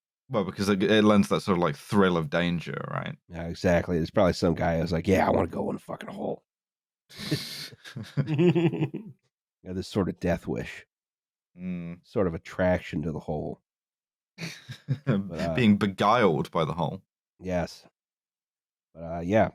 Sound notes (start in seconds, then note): 7.2 laughter